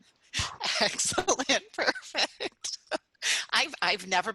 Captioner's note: laughter